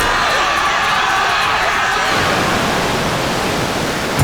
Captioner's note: crowd screaming